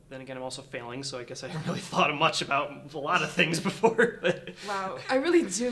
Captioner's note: chuckles